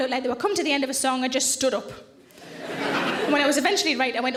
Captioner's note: audience laughs